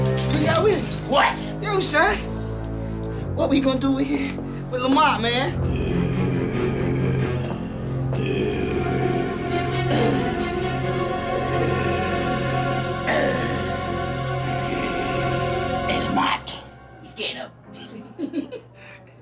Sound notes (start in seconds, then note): 5.6 growling; 17.7 laughs